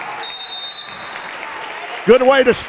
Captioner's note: whistle blows